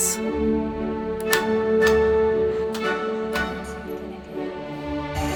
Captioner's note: classical music; light switch clicking